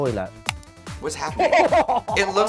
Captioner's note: Baga chuckles